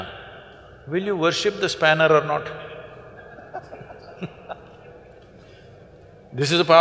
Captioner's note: laughter